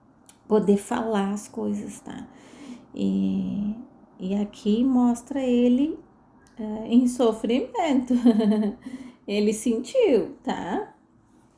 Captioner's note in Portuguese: risadas